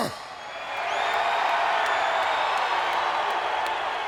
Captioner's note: audience cheers